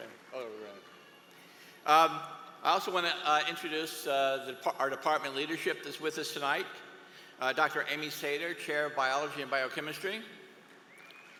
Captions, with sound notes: (APPLAUSE). I ALSO WANT TO INTRODUCE YOUR DEPARTMENT LEADERSHIP. DR. AMY SATER, CHAIR, BIOLOGY